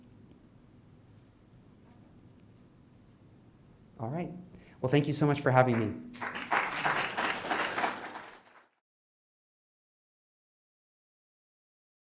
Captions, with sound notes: All right. Well, thank you so much for having me. [APPLAUSE]